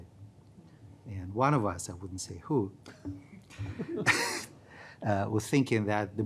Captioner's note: chuckles